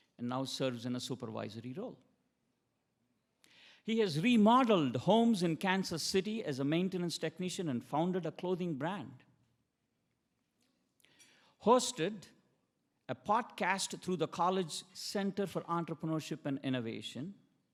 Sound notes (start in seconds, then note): none